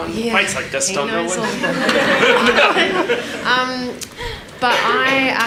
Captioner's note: everyone laughs